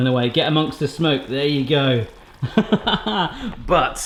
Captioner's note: laughing